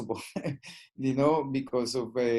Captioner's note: laughing